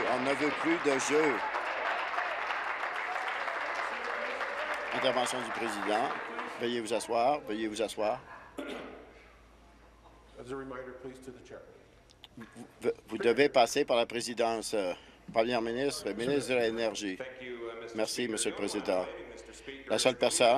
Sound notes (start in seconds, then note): 3.3 applause